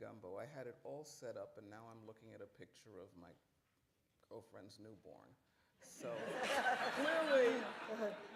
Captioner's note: laughter